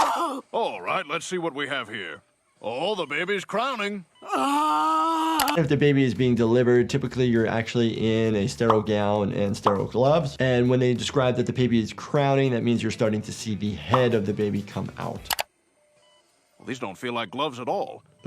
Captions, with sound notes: - All right, let's see what we have here. Aw, the baby's crowning. (grunting) - If the baby is being delivered, typically you're actually in a sterile gown and sterile gloves, and when they described that the baby is crowning, that means you're starting to see the head of the baby come out. - Well, these don't feel like gloves at all.